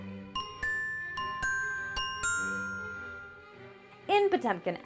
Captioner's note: gentle music; bell chiming